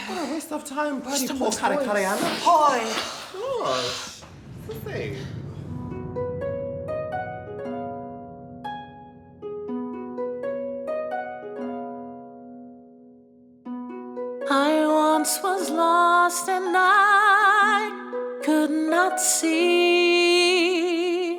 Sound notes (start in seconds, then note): 0.0 all sigh; 2.1 sighs; 8.0 gentle harp music